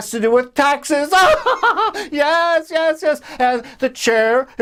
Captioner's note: laughs